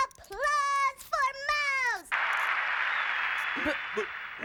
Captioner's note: makes sound of applause